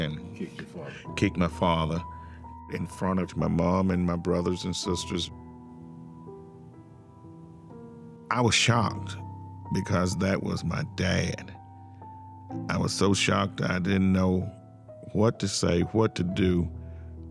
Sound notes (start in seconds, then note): none